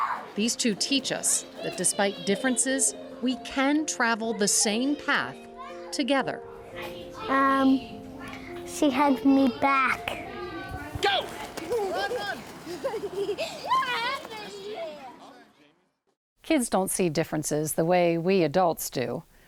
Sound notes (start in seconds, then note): 12.8 laughing